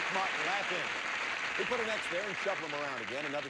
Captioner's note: audience applauding